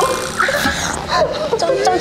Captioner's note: throbbing